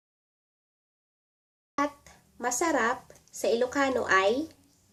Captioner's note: Tagalog